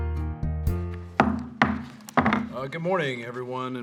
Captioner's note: gavel banging